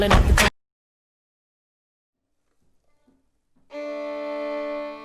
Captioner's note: music cuts out